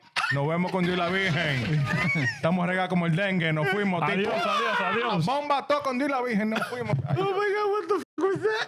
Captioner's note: speaking In Foreign Language